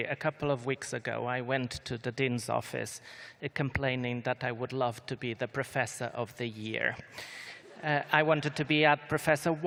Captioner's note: laughter